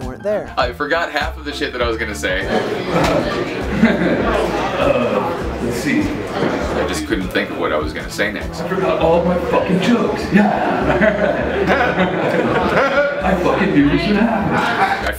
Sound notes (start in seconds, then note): 2.6 nervous laugh; 10.4 laughter